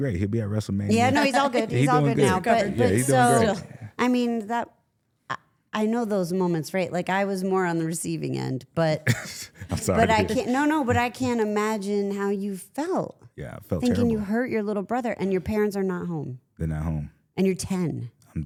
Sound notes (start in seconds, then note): 9.1 laughs